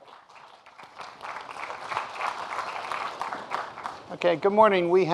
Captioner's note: audience applauding